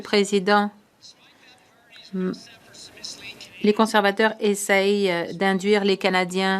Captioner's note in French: voix de l'interprète